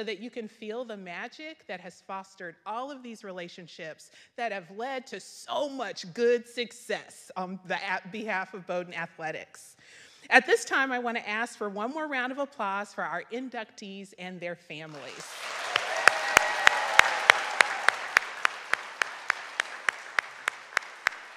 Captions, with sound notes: so that you can feel the magic that has fostered all of these relationships that have led to so much good success on the behalf of Bowdoin Athletics. At this time I wanna ask for one more round of applause for our inductees and their families. (audience clapping)